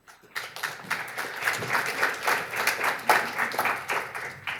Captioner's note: audience applauding